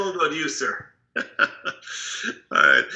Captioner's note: laughing